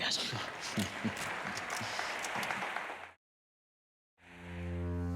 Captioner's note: audience applauds; Brian chuckles; tense brooding music